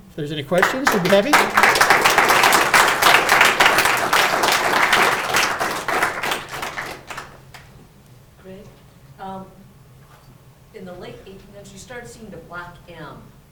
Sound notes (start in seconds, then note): 0.5 audience applauding